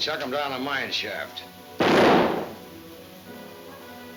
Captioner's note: gun firing